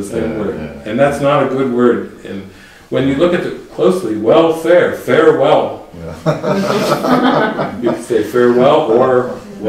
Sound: laughter

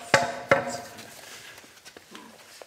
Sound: none

